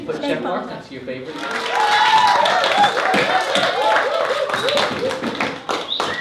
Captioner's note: cheering